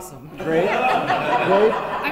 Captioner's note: laughter